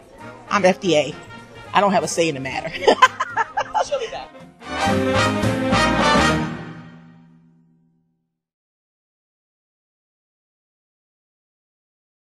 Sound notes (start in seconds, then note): 2.6 laughing